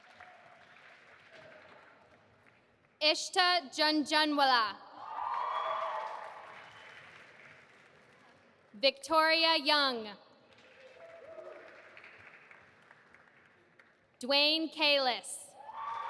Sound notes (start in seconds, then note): 0.0 audience applauding; 5.0 audience applauding and cheering; 10.5 audience applauding; 15.6 audience applauding and cheering